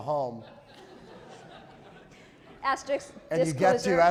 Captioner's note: audience laughing